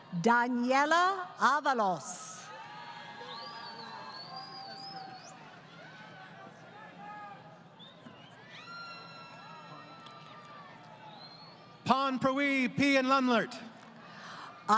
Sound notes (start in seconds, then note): 2.4 crowd Cheering